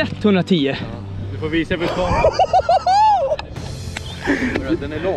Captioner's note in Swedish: Cheering